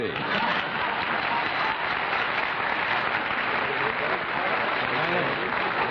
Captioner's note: applause